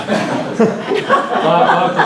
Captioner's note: laughter